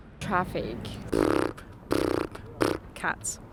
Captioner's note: imitating purring